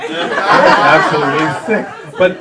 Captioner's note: audience laughter